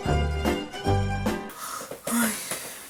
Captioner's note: sighs